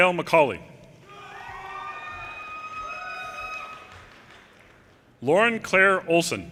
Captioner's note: audience cheers and applause